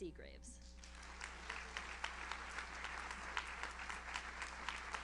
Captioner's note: audience applauds